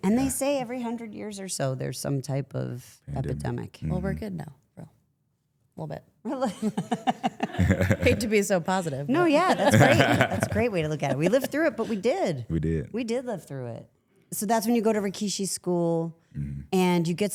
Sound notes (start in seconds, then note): 6.4 laughs